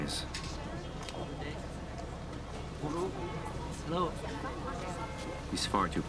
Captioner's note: people chatter indistinctly